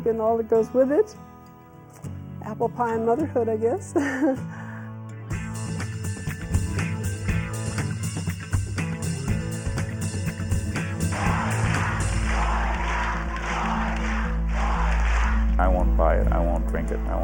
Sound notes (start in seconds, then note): 4.0 laughs; 11.1 people yelling